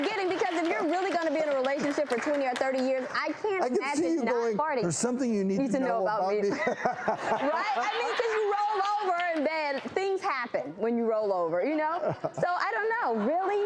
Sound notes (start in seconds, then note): 6.4 laughs